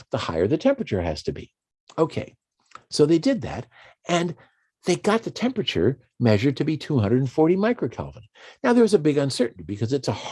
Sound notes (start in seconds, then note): none